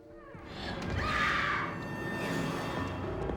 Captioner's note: screams